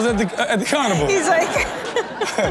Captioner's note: laughs